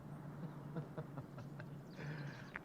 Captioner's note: crace laughing